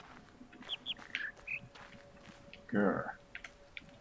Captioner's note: bird chirps high-high-low-mid